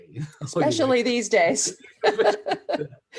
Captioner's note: chuckles